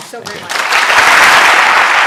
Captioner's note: applause